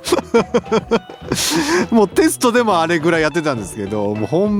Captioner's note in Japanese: 笑い